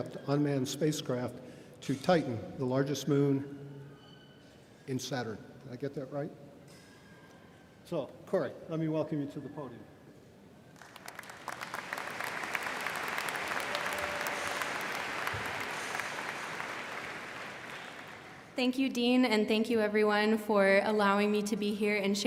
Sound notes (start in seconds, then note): 10.7 audience applauding